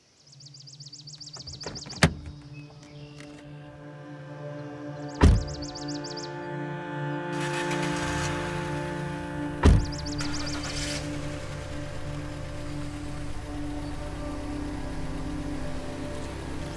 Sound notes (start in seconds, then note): 0.2 tense music; 0.2 truck door clicks; 5.2 truck door bangs; 7.2 engine starting; 9.6 truck door bangs; 9.7 engine starting; 13.1 engines revving